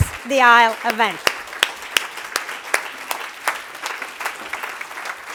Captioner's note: applause